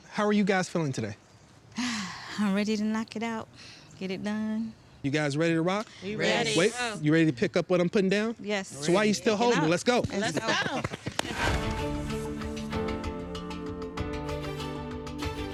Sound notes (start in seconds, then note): 11.3 all applauding; 11.5 gentle music